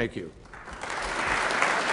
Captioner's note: applause